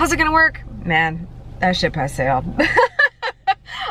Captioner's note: laughs